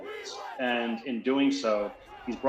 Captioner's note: chanting